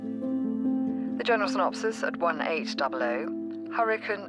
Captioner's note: radio